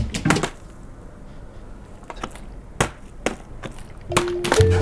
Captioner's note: plastic bottle flap sound